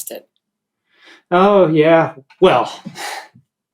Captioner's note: exhales